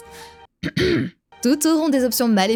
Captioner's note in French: tousse en Elin